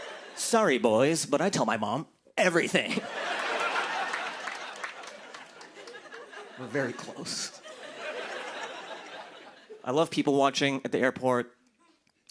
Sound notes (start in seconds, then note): 2.8 laughter